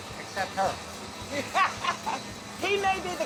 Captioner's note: everyone laughing